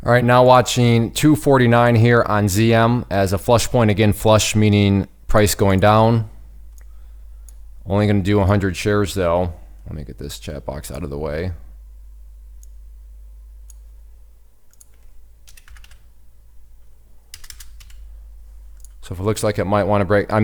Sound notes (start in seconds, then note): 12.7 mouse clicks; 15.6 keys typing